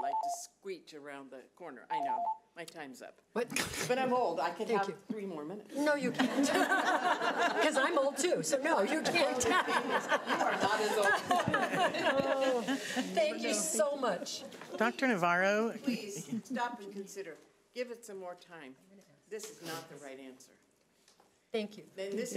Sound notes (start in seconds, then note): 1.9 alarm beeping; 6.1 audience laughing